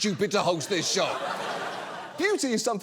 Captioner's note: audience laughing